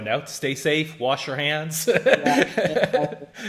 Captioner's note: laughs